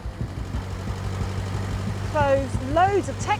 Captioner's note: digger rumbles